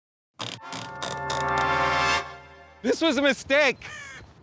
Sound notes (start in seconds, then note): 0.4 typewriter knob whirring